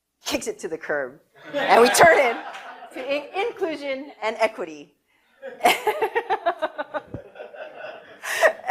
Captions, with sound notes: Kicks it to the curb. (audience laughter) And we turn it to inclusion and equity (laughs)